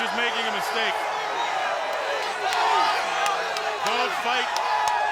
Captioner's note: audience cheering